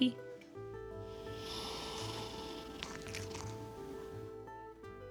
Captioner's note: snoring and purring